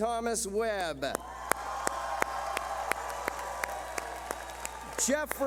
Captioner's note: clapping